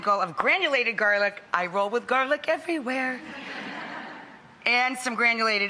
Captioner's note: audience laughing